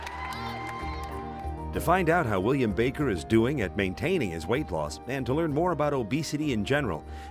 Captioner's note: cheers and applause